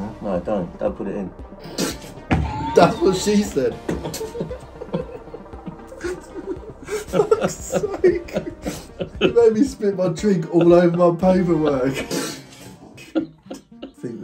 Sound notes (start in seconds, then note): 1.7 liquid spitting; 3.6 both laughing; 11.9 liquid spitting; 12.7 both laughing